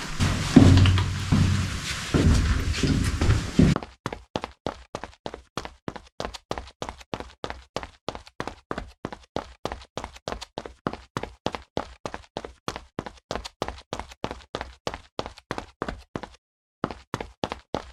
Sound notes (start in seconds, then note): 0.0 footsteps; 3.8 quick footsteps